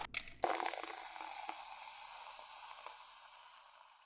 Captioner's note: soda hisses